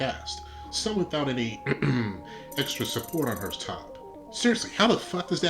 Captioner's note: ahem